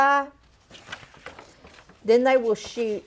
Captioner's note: paper rustling